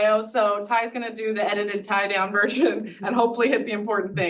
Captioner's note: laughs